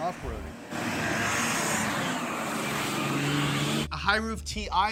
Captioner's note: engine whirring